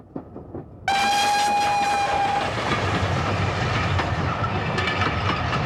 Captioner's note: engine whistle shrieks